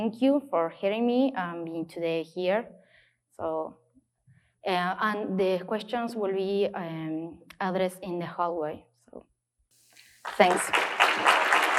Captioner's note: applause